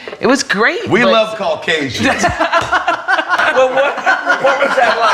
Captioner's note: all laughing